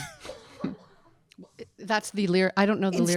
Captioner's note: audience laughing